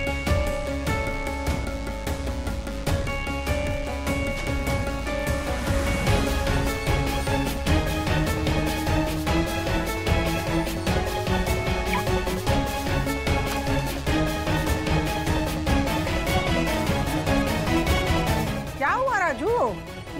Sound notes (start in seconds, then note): 11.8 beeping sound